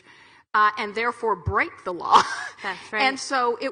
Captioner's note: chuckles